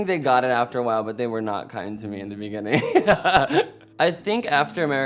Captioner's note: laughs